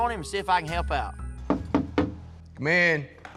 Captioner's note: knocking; door opens